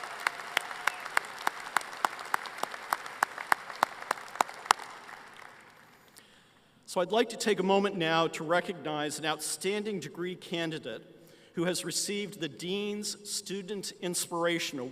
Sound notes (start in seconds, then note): 3.1 applause